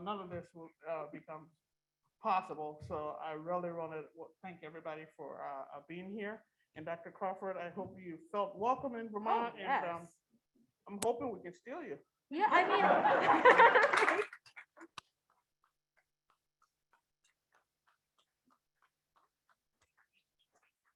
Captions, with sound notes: none of this would become possible. So I really wanna thank everybody for being here, and Dr. Crawford, I hope you felt welcomed in Vermont and I'm hoping we can steal you. - Yeah, I mean. (people laughing)